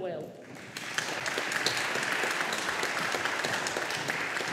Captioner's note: audience applauding